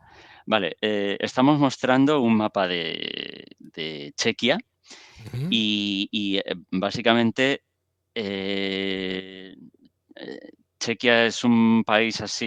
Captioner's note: laughs